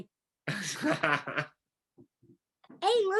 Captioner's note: laughs